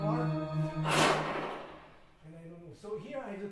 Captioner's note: whooshing sound playing